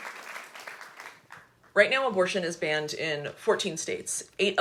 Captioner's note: audience applauding